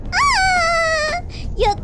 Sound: laughed in satisfaction

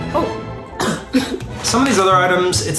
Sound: coughing

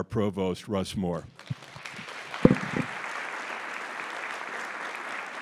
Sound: audience applauds

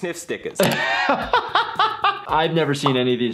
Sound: laughs

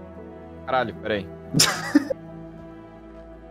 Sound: laughter

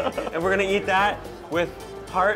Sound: laughing

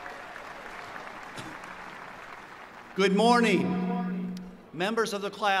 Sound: applause

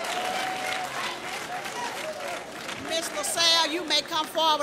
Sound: applause

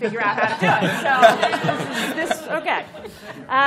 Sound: laughter

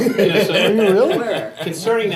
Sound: laughter drowns out speaker

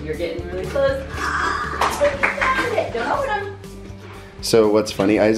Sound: claps

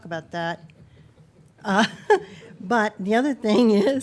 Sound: people chuckling

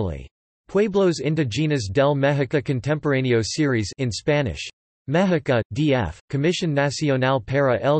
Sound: in Spanish

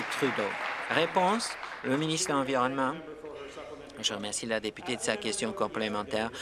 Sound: applause

